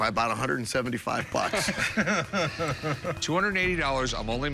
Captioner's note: laughter